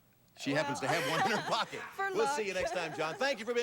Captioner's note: audience laughing